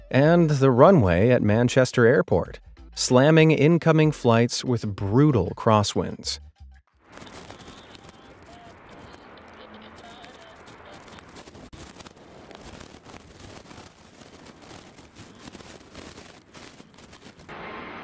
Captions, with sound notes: and the runway at Manchester airport, slamming incoming flights with brutal crosswinds. (wind blowing) (upbeat music)